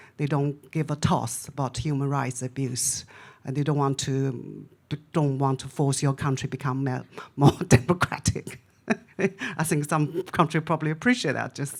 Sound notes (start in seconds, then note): 8.8 laughs